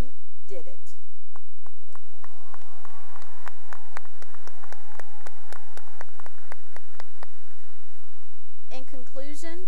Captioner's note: cheering and applause